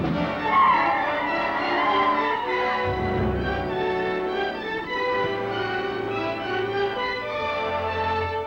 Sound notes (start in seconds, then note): 0.2 Indians howl